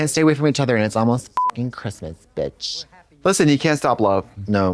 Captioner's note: beep